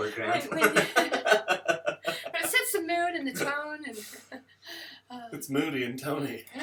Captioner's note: laughter